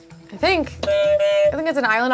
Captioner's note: buzzer honks